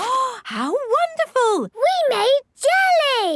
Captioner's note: gasps